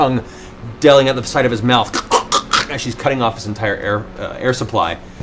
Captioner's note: strangling noises